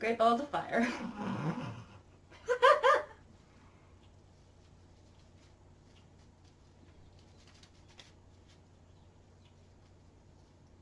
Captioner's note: giggles